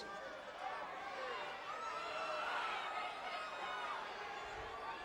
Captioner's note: crowd chattering